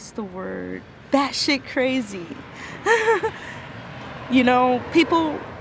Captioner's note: laughs